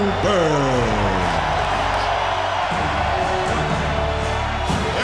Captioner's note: crowd cheering